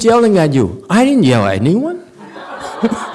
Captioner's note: audience laughs